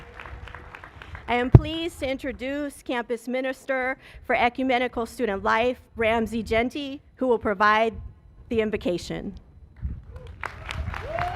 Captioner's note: cheers and applause